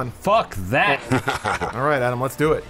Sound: evil laugh

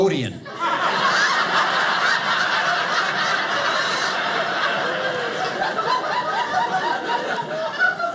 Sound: audience laughing

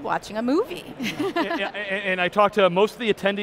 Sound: laughing

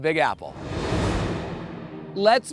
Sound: air whooshing

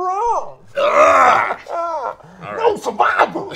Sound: groans

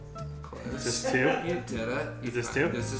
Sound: laughs off camera

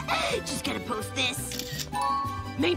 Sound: flashing, chiming

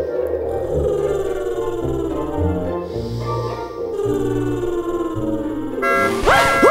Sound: snoring

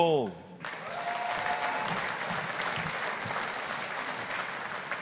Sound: audience applauding

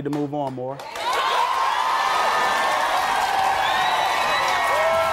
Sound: audience cheers

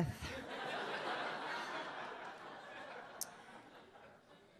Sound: audience laughs

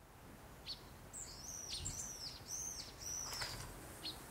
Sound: birds chirping

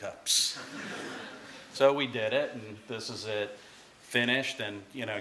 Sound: laughter

